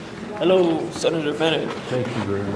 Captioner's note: deep voice